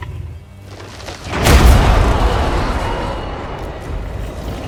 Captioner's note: thwomp; mechanical clanking and rattling